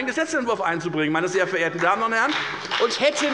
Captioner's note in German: Beifall bei der FDP